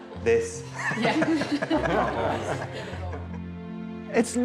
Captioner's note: everybody laughs